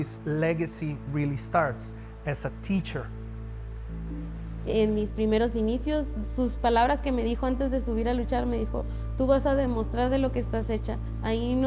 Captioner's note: speaking Spanish